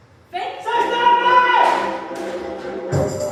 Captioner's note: shouting